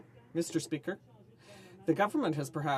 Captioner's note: speaking French